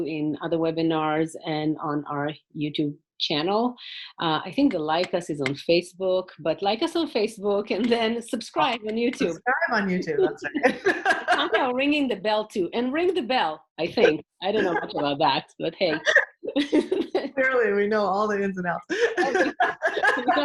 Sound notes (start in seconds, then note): 9.7 laughs; 18.6 laughs